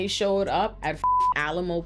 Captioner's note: beep